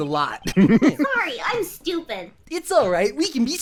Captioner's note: giggling